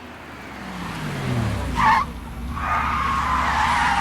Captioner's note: tires squeal